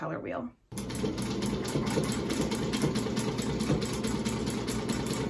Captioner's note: sewing machine whirring